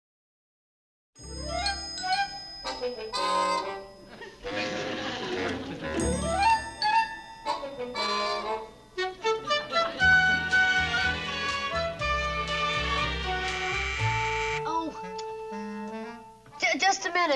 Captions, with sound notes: -(doorbell buzzing) -Oh! Just a minute.